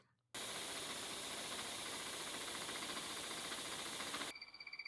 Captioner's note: machinery whirring